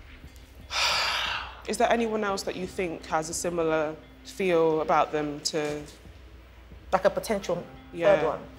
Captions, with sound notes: [Sigh] Is there anyone else that you think has a similar feel about them to- Like, a potential third one?